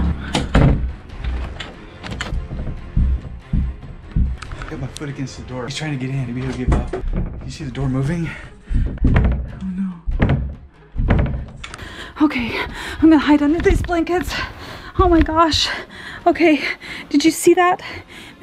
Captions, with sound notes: (door closing) (thumping) I have my foot against the door, he's trying to get in. You see the door moving. (door thumping) Oh no. - Okay, I'm gonna hide under these blankets. Oh my gosh, okay, did you see that?